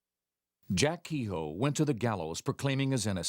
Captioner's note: voiceover